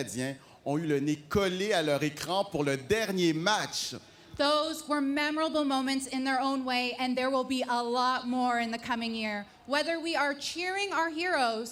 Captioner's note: speaking French